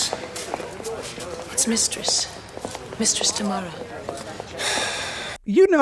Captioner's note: Schanke sighs in annoyance